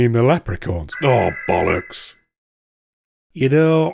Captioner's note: alarm